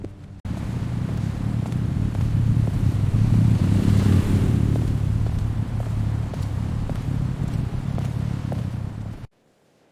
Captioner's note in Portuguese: som de trânsito e passos